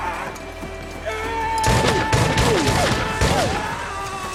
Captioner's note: grunts; yells